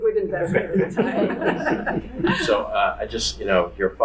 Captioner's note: audience laughing